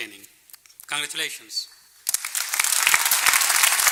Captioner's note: applause